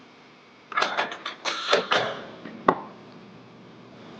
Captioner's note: door clattering